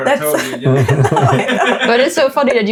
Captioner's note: laughing